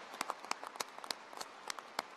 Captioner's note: applause